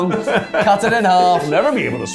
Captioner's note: laughing